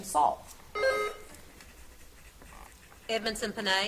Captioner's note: buzzer beeps